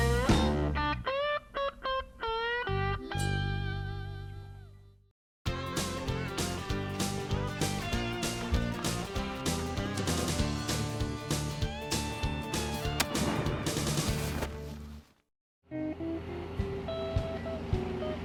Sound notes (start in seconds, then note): 2.7 upbeat music continues; 9.6 gun firing; 12.1 engine purring; 12.1 gentle music